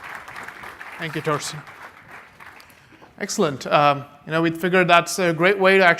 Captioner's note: applause